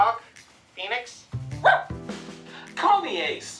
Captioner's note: woof